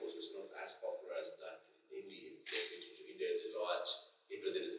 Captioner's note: clicking drowning out speaker